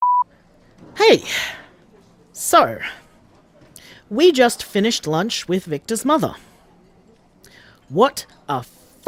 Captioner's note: background SFX: Restaurant hubbub